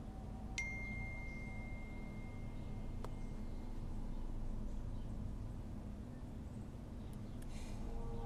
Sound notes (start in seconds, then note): 0.5 cell phone chimes